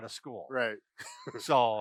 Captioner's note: laughs